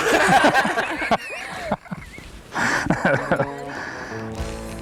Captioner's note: laughter